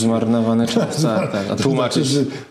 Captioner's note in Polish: śmiech